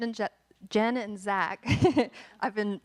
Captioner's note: laughing